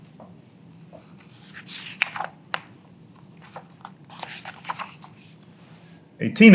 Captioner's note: pages rustling